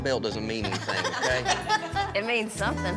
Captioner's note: everyone laughs